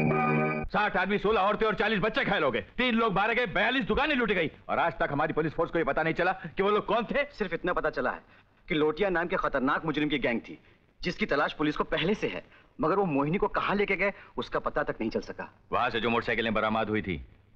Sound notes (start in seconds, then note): none